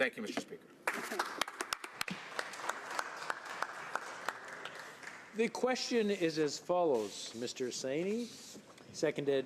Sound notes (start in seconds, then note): 3.3 some applause